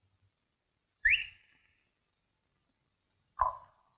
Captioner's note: whistling; tongue clicking